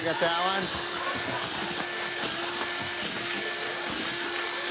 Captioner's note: drill whirs